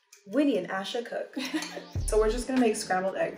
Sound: chuckles

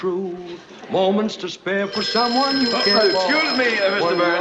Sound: phone ringing

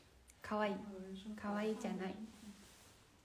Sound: japanese

